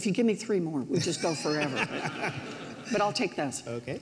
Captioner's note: laughs